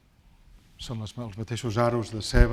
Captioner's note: speaking spanish